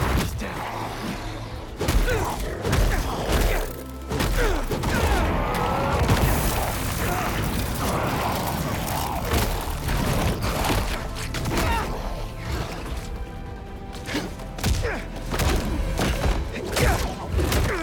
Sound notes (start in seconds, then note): none